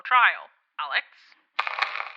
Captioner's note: some radio static